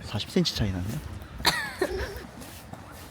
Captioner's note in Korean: 헛기침